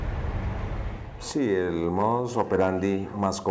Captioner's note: speaking foreign language